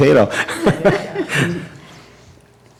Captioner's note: laughter